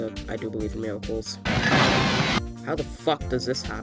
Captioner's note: special tape sound